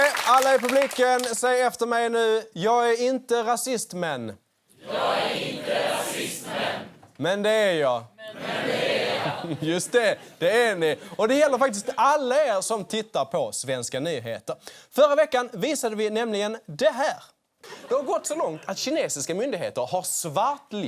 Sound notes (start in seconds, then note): 8.3 the audience repeats